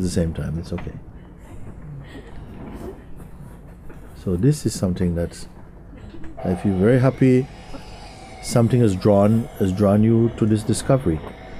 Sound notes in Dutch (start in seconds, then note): 2.4 vriend weent